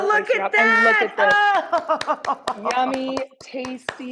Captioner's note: clapping